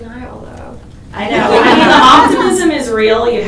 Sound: everybody laughs

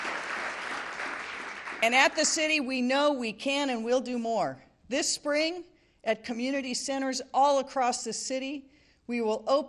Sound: applause

